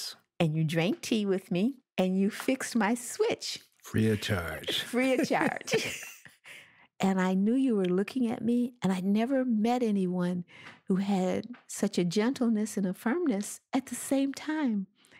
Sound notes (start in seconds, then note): 5.8 both chuckle